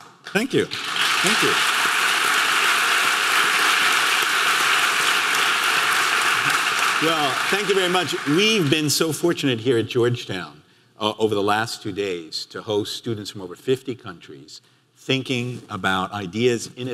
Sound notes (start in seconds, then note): 1.6 audience clapping